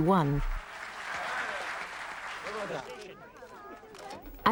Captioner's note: crowd applauding